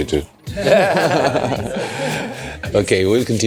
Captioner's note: everyone chuckles